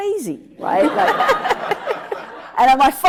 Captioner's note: audience laughs